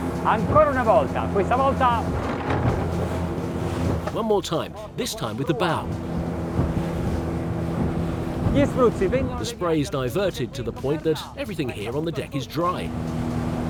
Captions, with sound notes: (speaking foreign language) One more time. This time, with the bow. The spray is diverted to the point that everything here on the deck is dry.